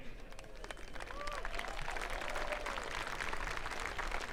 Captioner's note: audience applauding